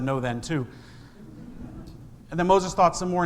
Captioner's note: congregation laughs